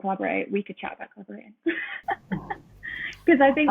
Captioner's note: laughs